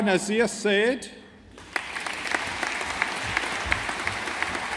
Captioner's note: audience applauding